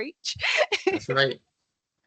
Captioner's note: laughing